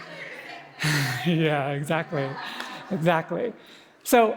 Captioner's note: laughs